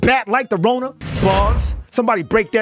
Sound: bars slamming

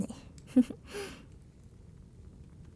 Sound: laugh

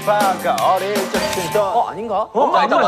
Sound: ding

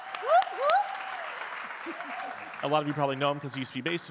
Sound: audience clapping and cheering continues; chuckles

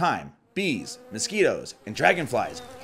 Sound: insects buzz

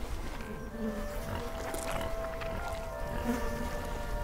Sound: flies buzz

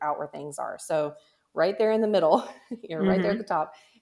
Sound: laughs

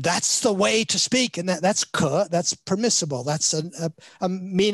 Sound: speaks in Chinese

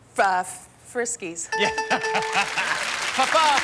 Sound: laughs

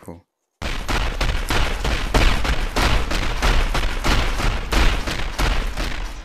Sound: punch sounds

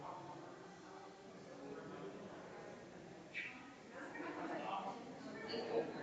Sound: people chattering distantly continues

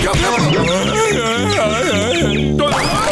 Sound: groaning

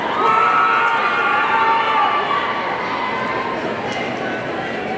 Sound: audience cheering

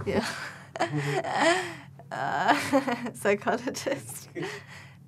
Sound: laughing

